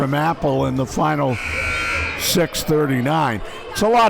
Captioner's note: buzzer buzzes